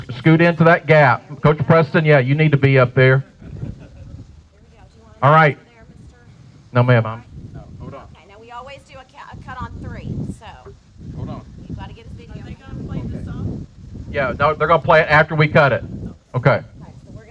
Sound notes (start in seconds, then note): 3.0 a few people laughing; 12.1 muffled conversation